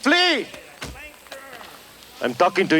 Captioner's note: foot thuds